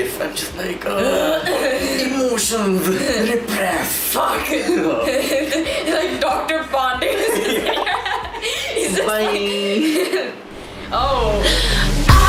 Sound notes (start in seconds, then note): 4.5 laughing; 10.6 outro music playing